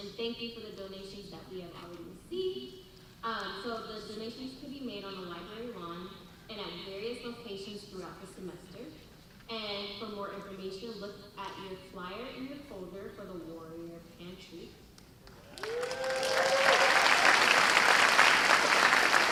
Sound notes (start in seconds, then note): 15.4 cheers and applause